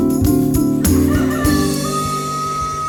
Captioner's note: rooster crowing